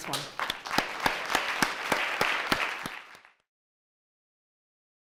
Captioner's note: audience clapping